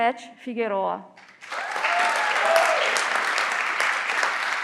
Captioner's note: everyone claps